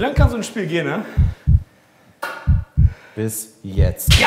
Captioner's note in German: Herzklopfen